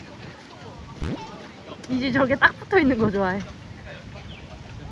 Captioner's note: splash